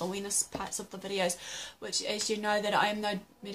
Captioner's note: gasp